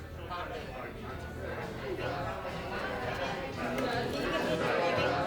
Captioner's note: bar chatter